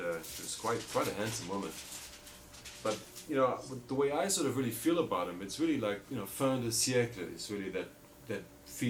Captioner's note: foreign language